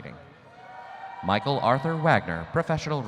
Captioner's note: audience cheering